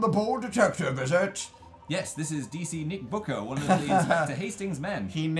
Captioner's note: laughs